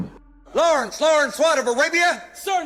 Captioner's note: shouts